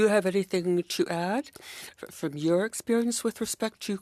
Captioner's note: speaking French